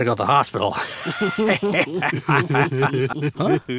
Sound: other photographers laugh

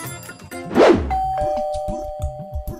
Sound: door bell ringing

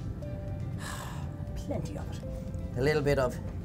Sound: sighs

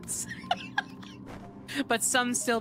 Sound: laughter

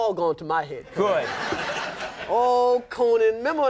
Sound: audience laughs

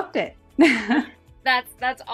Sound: chuckles

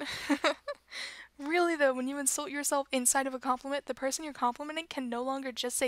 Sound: laughter

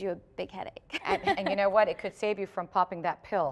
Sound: laughter

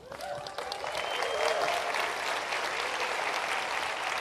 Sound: applause

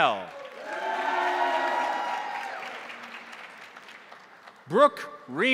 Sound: crowd applauding; crowd cheering

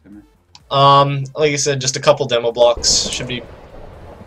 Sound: lightning bolt

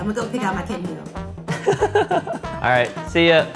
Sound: laughing

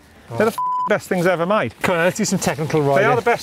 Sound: beep

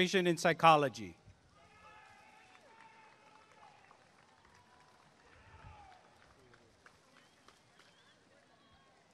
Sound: applause and cheering

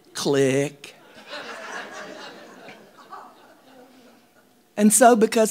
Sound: audience laughing

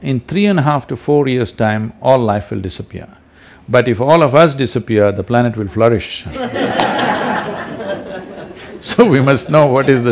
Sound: laughter

